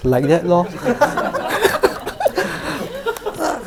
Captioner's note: audience laughs